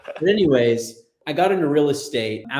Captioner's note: chuckles